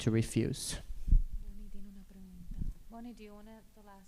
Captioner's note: speaking spanish